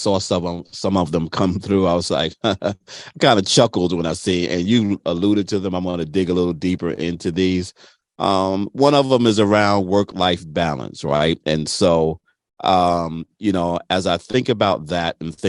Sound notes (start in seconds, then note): 2.2 chuckles